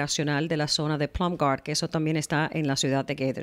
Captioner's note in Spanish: Hablando ingl\s